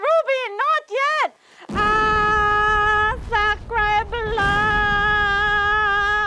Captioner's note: screams